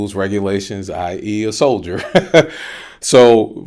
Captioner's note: laughing